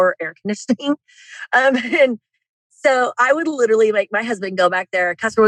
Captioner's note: laughs